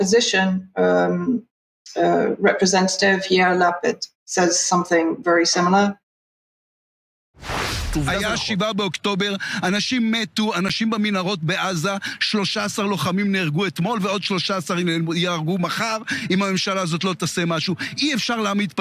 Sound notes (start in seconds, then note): 6.3 speaking in Hebrew